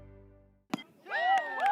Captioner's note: baseball hit; cheers